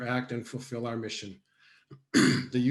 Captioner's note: coughs